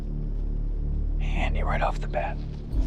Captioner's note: whispers